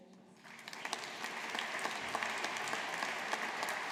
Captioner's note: audience applauding